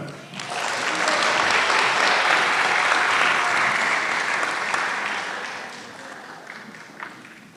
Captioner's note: applause